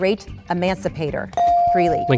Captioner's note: bell dings